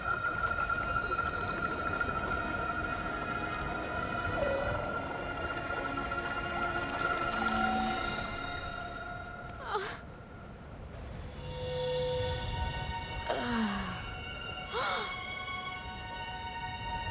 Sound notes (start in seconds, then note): 9.1 crying; 13.2 groaning; 14.7 gasping